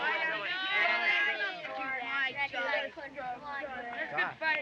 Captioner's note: all Shouting